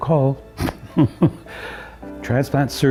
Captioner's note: chuckles